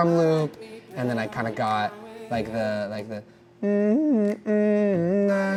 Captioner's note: hums Melody